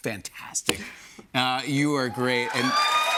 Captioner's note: cheers and applause